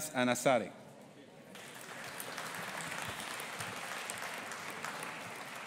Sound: audience applauding

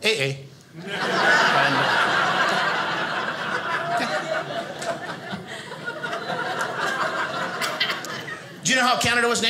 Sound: audience laughing

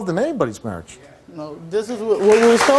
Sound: audience applauds

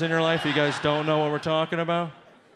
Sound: audience laughs

